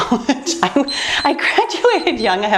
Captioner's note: timer beeps